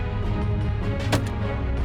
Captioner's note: gun shot